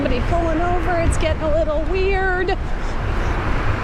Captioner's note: nervous